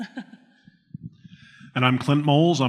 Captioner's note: laughs